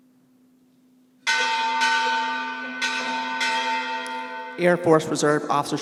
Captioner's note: bell clanging